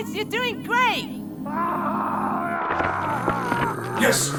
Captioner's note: Vegeta screaming